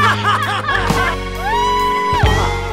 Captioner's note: laughs